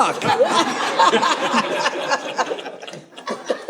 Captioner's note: audience laughing